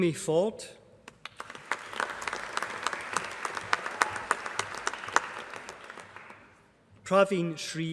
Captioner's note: applause